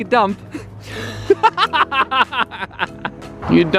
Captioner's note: man laughing